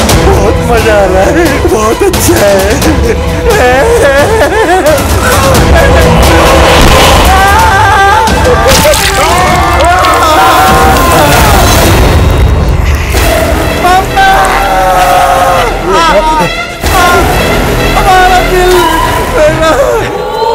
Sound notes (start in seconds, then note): 3.5 Crying; 8.5 Manav screams; 15.9 Vishwas screams